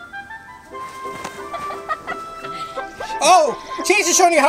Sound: laughter

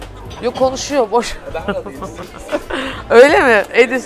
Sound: laughs

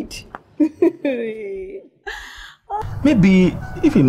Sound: laughs

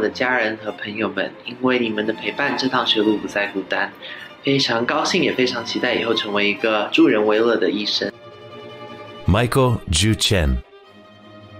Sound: non-english speech

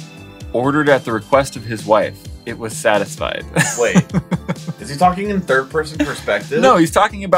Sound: laughs

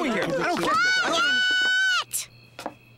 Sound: yells

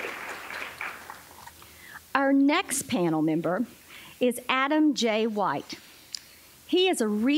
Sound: applause

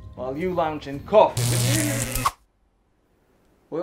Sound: electric wave

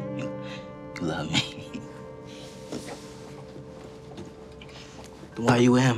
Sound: laughing

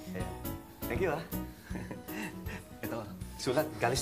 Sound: chuckles

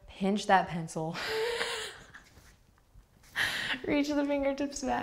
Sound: laughing

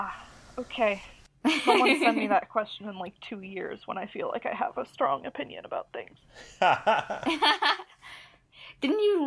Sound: laugh

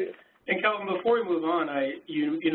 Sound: voiceover

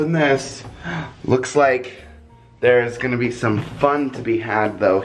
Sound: gasps

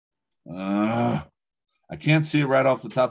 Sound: grunts

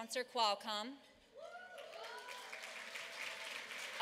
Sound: applause

